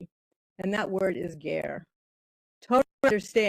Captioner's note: speaking in foreign language